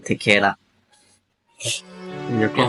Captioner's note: sneeze